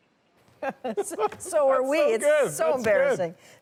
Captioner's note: laughter